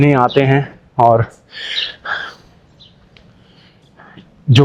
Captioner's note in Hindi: अचानक ज़ोर से सांस लेने की आवाज़